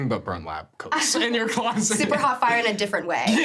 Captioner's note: chuckles; chuckling